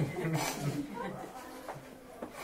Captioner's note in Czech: Smích